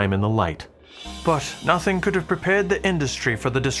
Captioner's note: Irish accent